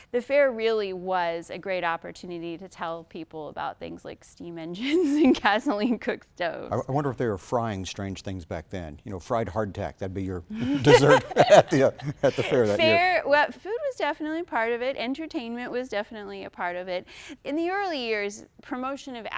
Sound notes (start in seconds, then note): 10.5 laughter